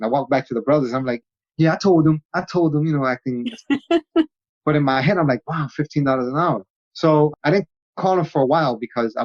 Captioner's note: laughing